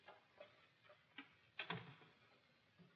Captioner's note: door shuts